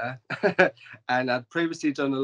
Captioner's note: laughs